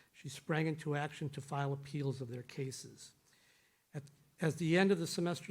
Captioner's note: none